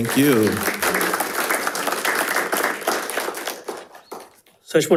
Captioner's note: attendees applauding